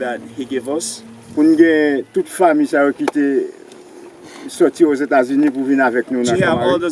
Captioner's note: speaking in foreign language